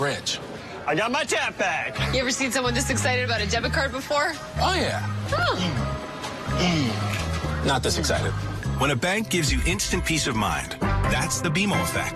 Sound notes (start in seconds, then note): 6.5 grunting